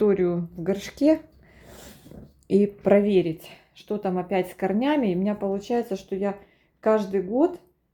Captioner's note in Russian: фыркает